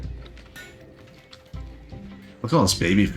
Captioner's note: clicking